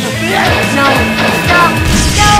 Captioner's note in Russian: бам-бам-бам-бам-бам-бам